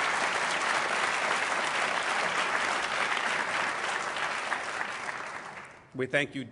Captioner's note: applause